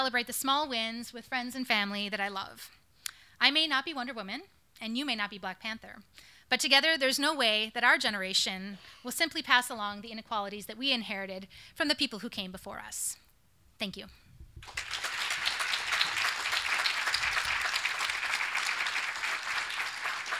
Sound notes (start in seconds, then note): 14.6 audience applauding